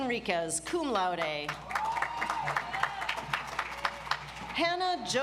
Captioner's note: audience applauds